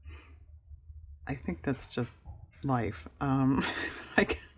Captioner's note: laughs